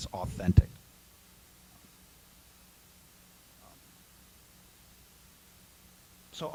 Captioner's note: silence